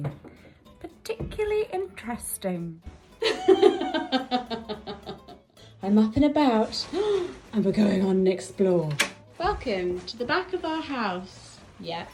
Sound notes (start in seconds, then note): 3.2 laughs; 6.9 gasps